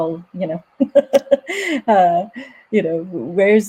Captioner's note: laughing